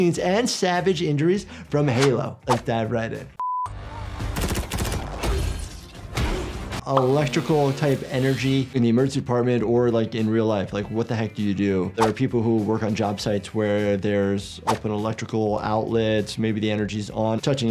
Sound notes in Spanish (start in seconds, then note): 4.3 tiroteo; 4.8 zapping eléctrico